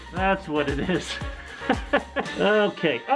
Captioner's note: awkward laughing